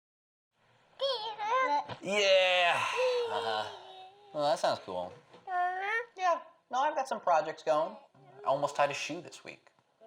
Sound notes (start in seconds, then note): 1.0 baby babbling; 5.4 baby babbling